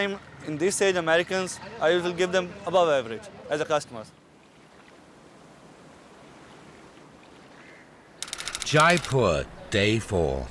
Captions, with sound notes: in this stage Americans, I will give them above average for customers. (Sound - lapping water) Jaipur day four.